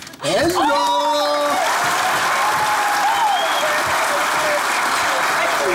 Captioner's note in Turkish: Alkış sesleri